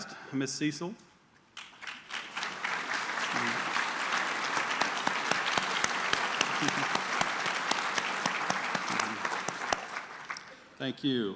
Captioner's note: applause